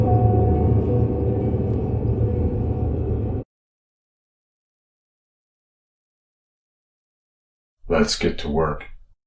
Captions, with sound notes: [music ends abruptly] [long silence] Let's get to work.